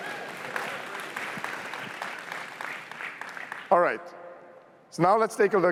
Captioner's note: applause